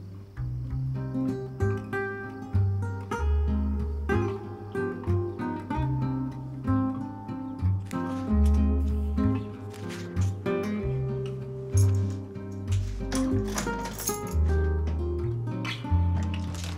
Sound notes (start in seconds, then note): 12.5 keys clink; 12.5 lock rattles